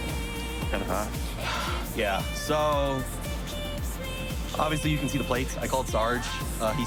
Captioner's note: sighs